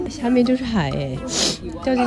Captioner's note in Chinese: 吸鼻涕